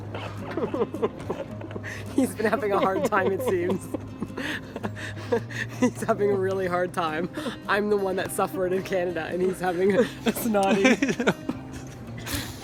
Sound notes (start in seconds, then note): 0.1 crying and laughing at the same time; 5.1 sobs; 10.0 cry-laughing